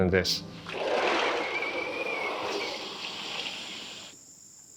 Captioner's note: sliding door creaks